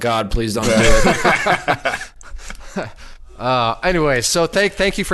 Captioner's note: all laugh in unison